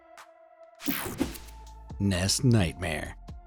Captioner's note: air whooshing